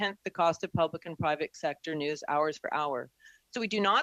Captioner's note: speaking French